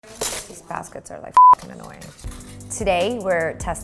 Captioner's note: beep